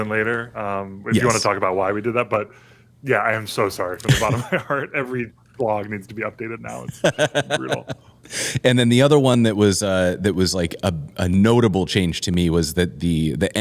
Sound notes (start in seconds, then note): 6.8 laughter